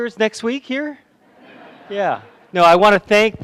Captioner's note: laughter